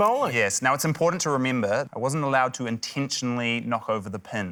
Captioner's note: none